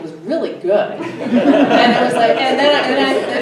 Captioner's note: everybody laughs